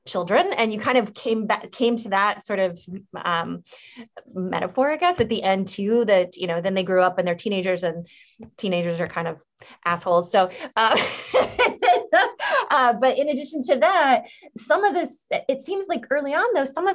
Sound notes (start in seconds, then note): 10.9 laughs